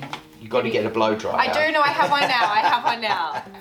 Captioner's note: laughing